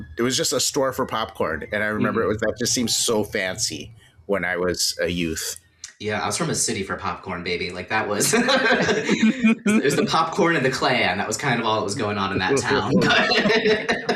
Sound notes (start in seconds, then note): 8.2 laughter; 12.9 laughter